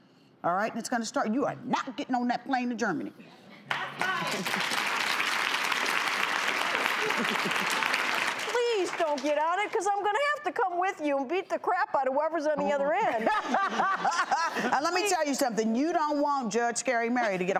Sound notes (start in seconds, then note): 3.6 applause; 7.0 chuckles; 13.1 laughing